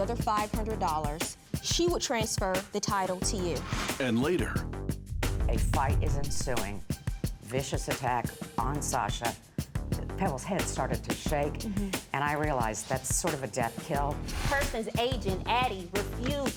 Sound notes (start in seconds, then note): none